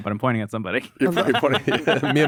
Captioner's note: laughs